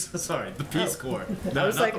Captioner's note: laughter